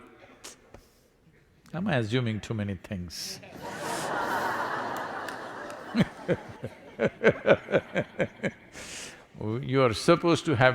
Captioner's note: laughter